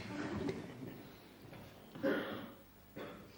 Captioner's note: laughter